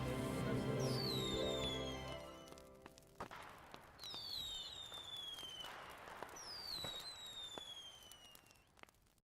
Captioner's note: fireworks shooting and exploding, fire crackling